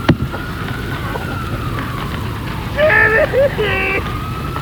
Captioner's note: coughing; coughs While Crying Out